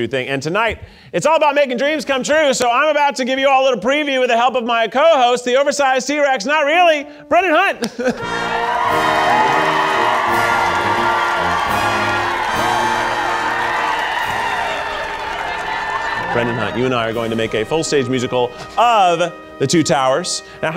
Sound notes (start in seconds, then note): 8.4 audience cheering; 8.4 dramatic music